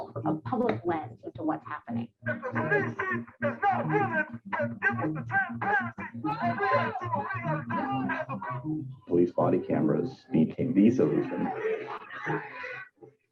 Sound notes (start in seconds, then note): 2.2 crowd protesting